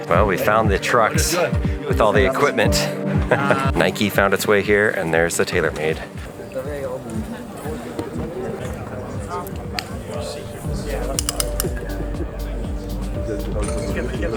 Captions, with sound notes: Well, we found the trucks with all the equipment. Nike found its way here and there's the TaylorMade. (people chattering)